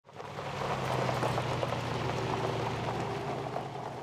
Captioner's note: gravel rustling